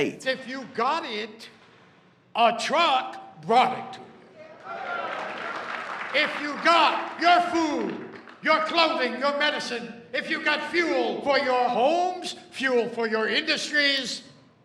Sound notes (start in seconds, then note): 4.6 audience clapping